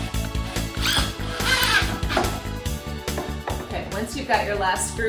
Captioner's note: drill whirling